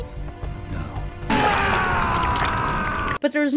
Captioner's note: Shadow screams in agony